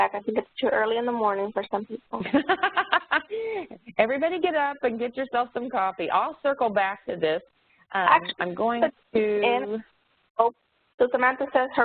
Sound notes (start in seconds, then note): 2.2 laughing